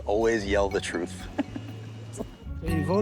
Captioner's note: chuckles